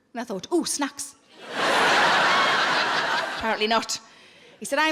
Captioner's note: audience laughing